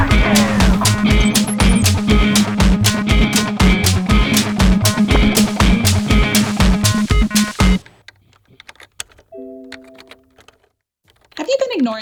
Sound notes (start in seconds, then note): 3.2 upbeat music continues; 9.4 alert chimes; 9.7 keyboard clicking